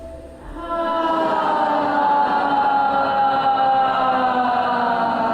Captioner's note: loud sighing